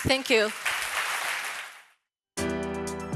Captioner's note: applause